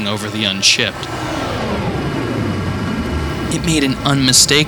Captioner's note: engine rumbling